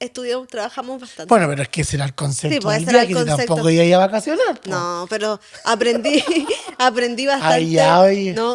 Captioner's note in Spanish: risas